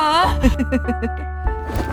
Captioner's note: giggles